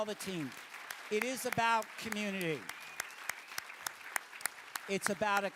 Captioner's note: applause